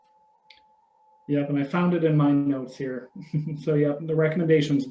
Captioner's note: laughing